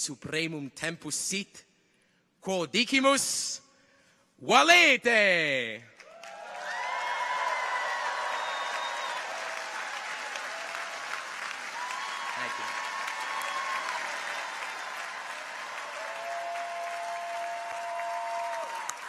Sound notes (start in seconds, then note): 6.4 audience applauds; 6.4 people cheer